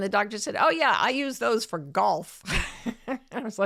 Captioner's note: chuckles